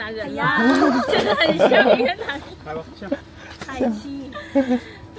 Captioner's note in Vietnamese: Tiếng cười